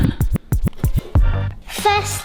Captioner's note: record skipping